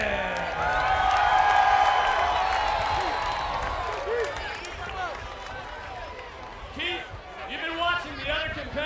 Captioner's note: applause